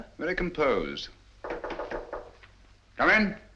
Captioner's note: knocking